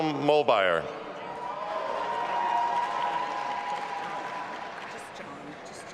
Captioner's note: audience applauding and cheering